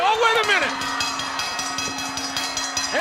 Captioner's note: bell ringing